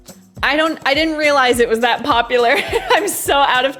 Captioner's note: laughs